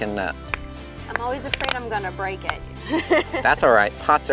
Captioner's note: chuckles